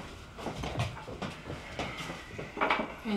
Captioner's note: footsteps retreating; footsteps approaching